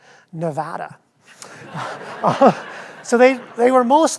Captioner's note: audience laughs